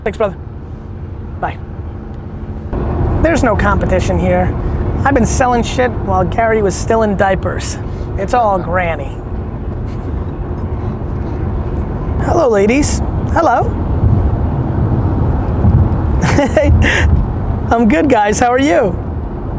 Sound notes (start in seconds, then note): 10.5 laughing